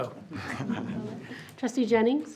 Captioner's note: group chuckles